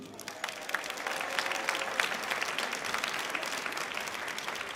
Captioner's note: audience clapping